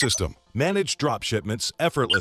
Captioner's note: beeping